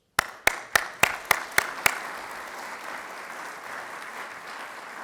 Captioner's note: audience applauding